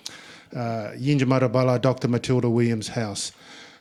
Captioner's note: speaking in Ngunnawal